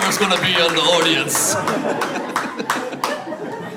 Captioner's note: audience laughs